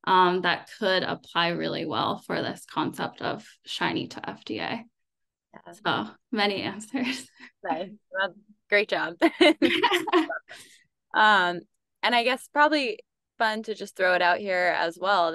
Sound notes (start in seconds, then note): 9.2 laughter